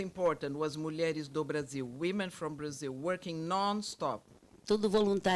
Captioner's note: speaks Portuguese; speaking Portuguese